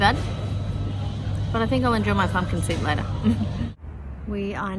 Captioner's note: chuckles wryly